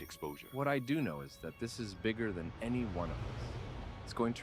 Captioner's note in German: Flugzeug fliegt vorbei